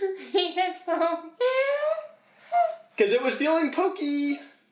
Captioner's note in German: lacht